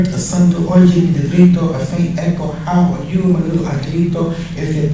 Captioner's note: speaking spanish